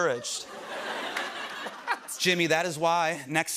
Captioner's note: laughter